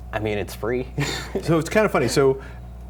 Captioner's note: laughing